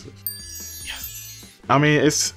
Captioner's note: text tinkling